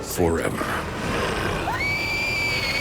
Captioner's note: heavy growling; loud scream